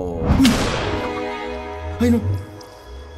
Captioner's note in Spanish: Disparo